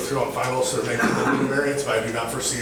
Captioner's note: coughing drowns out speaking